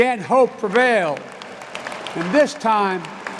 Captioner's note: applause